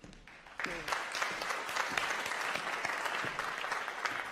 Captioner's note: applause